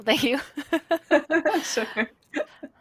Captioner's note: laughter